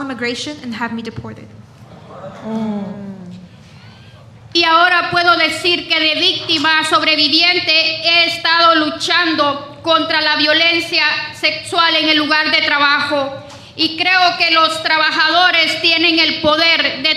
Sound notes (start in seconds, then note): 6.2 speaking spanish